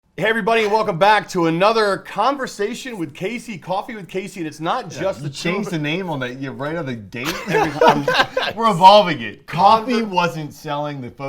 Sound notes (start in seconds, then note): 7.2 laughter